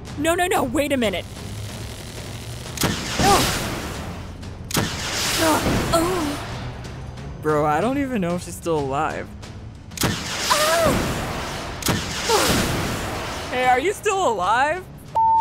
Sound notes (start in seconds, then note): 2.8 grunting; 2.8 launcher firing; 9.9 grunting; 11.2 launcher firing; 15.1 beep